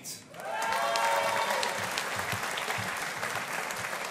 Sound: audience applauding

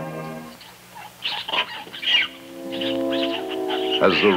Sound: wildlife chittering; suspenseful music

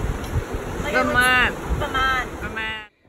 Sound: in cheesy American accent

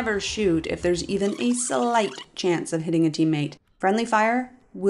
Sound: zipping rewind

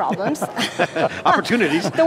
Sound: laughing

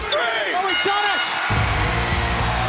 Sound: bell rings

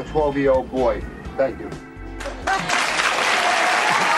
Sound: applause

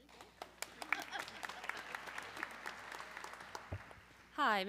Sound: audience clapping

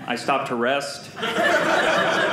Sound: audience laughing

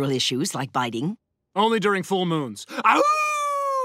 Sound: howling; laughing

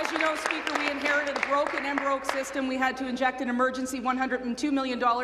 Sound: applause

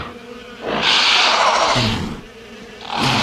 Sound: growling

